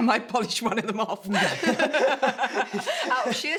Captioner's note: both laugh